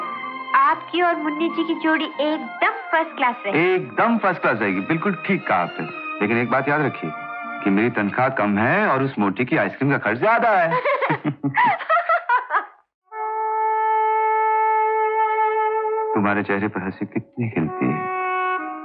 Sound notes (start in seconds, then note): 10.6 Laughing